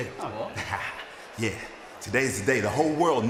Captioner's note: chuckles